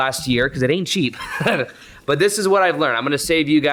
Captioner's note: laughs